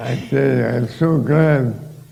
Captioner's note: laughter